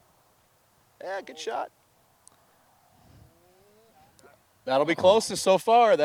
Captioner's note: speaking faintly